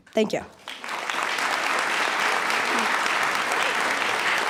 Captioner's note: applause